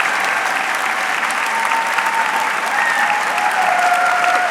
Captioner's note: audience clapping